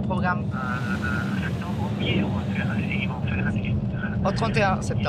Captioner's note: voice on phone